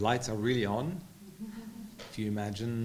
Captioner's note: audience members chuckling